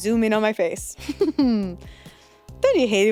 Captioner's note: laughs